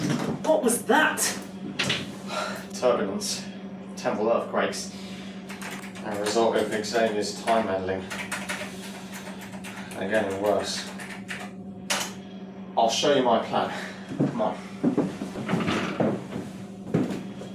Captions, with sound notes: -What was that? -Turbulence. Temple earthquakes. They're a result of Xavier's time meddling. (TYPING ON KEYBOARD) They're getting worse. I'll show you my plan. Come on.